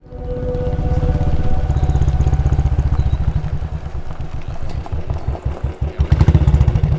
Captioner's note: chattering